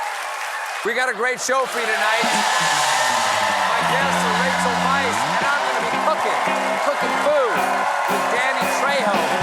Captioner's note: cheering